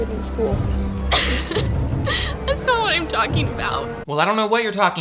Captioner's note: cries